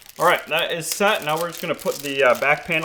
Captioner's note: packaging crinkling